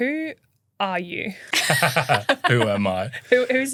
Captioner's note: laughing